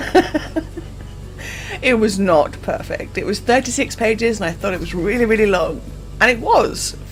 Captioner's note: laughs